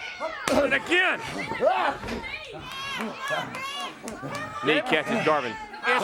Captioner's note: crowd chatter